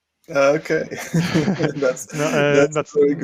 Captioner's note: laughs loudly